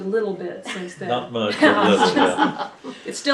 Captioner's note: laughter